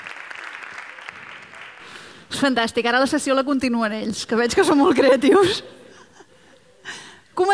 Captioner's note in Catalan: Riures